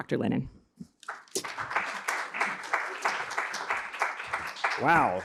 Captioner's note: applause